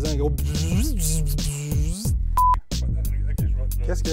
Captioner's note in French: imitation de vibration